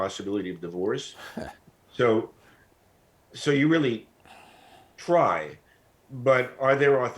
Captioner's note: chuckles